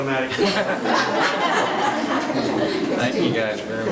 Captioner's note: women laughing